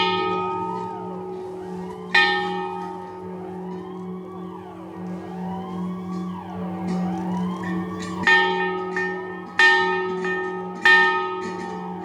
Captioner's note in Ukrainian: Дзвонить дзвін, звучить сирена